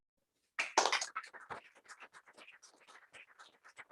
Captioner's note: applause